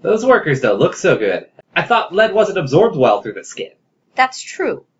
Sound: sad voice

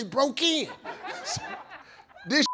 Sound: audience laughs

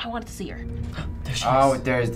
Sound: gasping

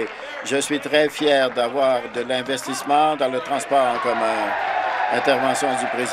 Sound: applause

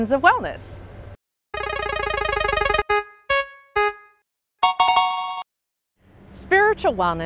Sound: game Show spinning wheel

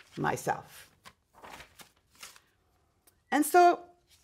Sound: paper rustling

